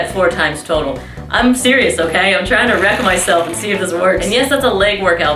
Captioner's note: whirrrr